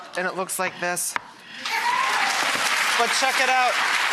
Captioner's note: audience applause